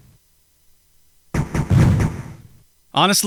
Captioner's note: pew pew pew